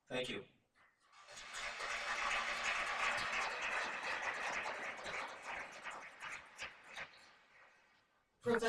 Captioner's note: applause